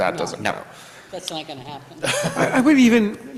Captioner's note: everybody laughs